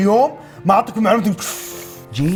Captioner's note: sucks breath